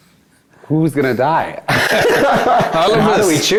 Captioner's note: both Laugh